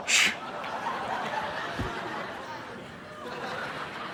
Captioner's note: audience laughing